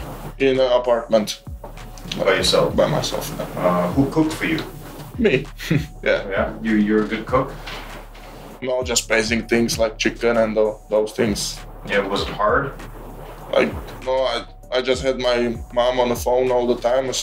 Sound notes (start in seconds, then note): 5.4 laughs